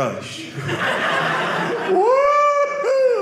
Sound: audience laughing

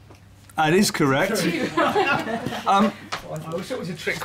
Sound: laughter

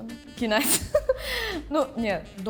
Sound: laughing

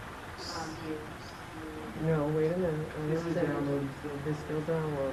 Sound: people chattering quietly

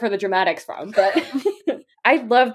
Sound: laughing

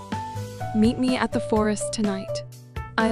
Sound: confident

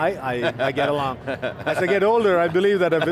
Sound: laughs

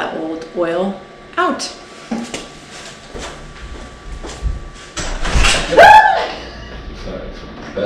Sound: screams

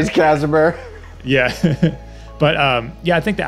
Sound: laughs

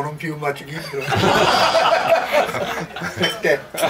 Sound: laughing

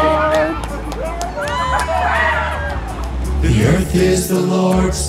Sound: people cheering

